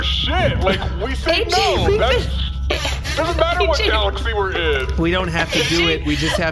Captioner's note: crying laughing; laughing